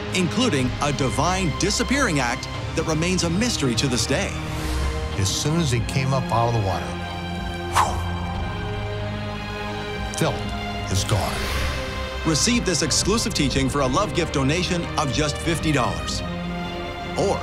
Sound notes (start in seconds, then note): 7.7 exhales dramatically